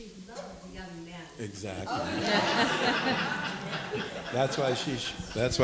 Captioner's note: people laughing